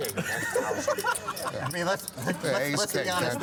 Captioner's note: laughter